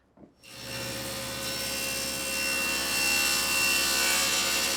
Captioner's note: saw whirring